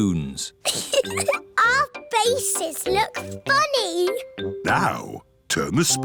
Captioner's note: giggles